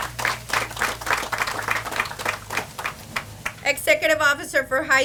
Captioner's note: audience applauds